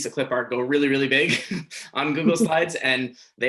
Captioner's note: chuckles